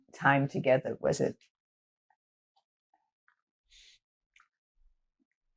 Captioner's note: pauses 6 seconds